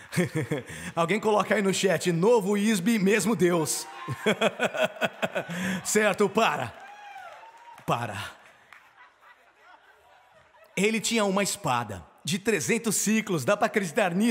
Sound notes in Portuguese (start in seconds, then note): 0.0 risadas; 3.9 risadas